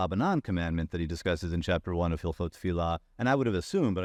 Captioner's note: faintly speaking